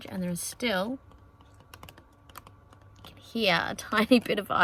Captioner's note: ice taps inside jar